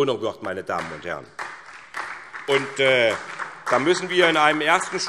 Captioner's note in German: Beifall SPD